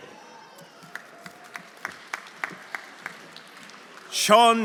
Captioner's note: audience applauding